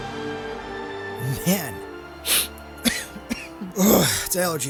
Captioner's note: lowkey crying